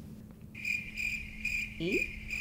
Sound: crickets chirping

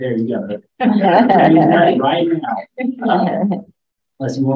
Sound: laughs

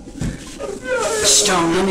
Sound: uncontrollable sobbing

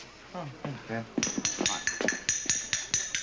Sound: glass tapping

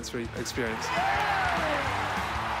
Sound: applause

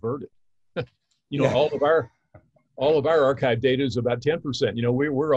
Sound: chuckles

